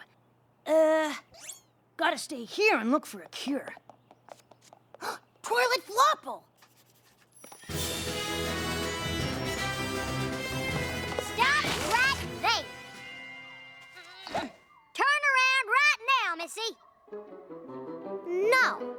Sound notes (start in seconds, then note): 4.3 gasps; 13.8 grunts